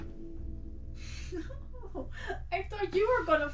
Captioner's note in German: lacht